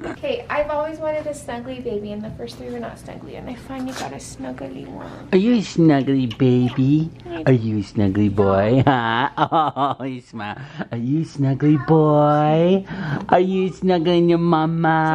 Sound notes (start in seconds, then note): 8.4 laughing